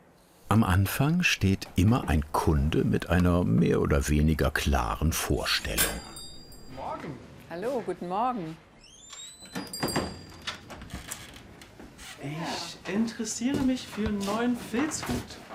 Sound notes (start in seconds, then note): 5.6 ringing of the doorbell